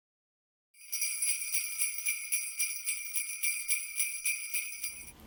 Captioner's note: sleigh bells